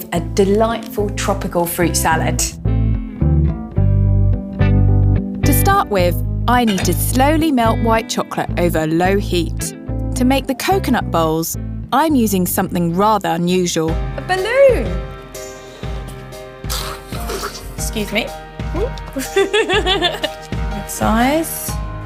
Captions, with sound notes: a delightful tropical fruit salad. To start with, I need to slowly melt white chocolate over low heat. To make the coconut bowls, I'm using something rather unusual. A balloon. (balloon deflates) Excuse me, (laughs) that size.